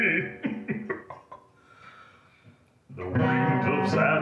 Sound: laughing wickedly

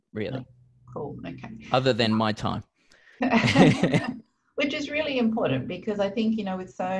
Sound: laughs

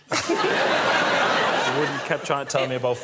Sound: audience laughing

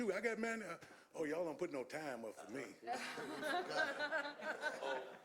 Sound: laughter

